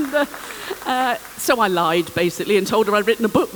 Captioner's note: laughter